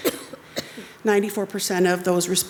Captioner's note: attendee coughs